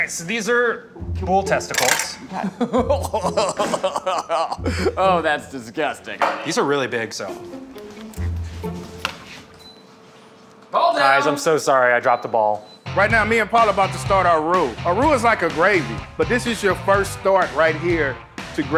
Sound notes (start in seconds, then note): 2.2 gagged laugh